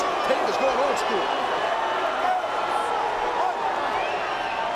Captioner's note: crowd cheering